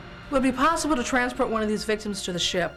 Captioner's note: none